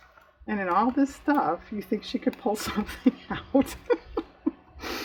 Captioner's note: laughs